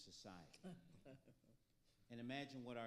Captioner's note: panelists laughing